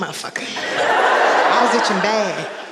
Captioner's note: audience laughing